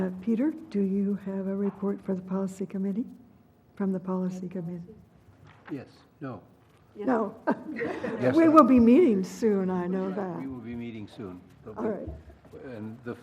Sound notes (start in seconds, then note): 6.5 laugh